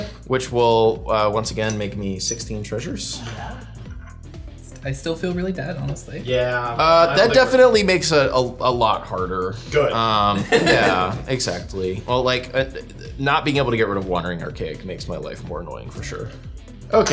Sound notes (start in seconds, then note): 10.2 laughing